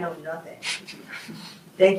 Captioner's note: group chuckles